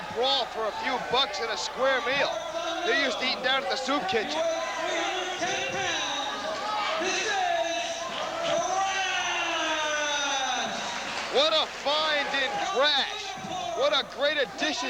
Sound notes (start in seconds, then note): 9.5 crowd cheering